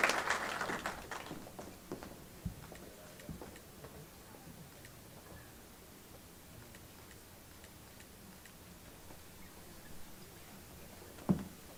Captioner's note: applause